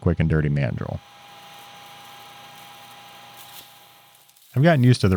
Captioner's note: machine whirring